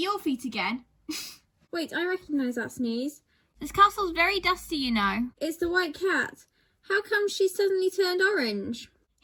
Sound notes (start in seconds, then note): 1.1 cat sneezes